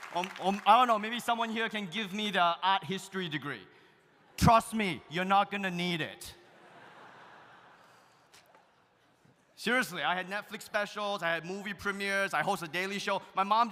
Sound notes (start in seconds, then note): 6.5 audience laughs